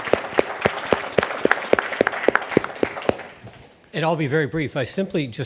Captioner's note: audience applauds